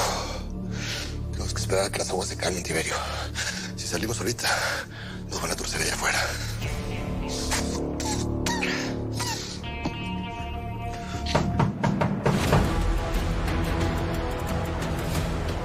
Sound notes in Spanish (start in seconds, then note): 11.4 Toques en la puerta